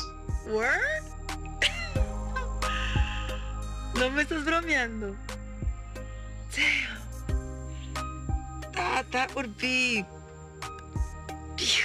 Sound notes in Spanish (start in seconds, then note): 1.6 Risas